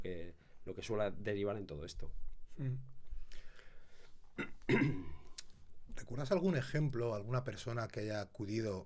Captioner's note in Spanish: carraspeo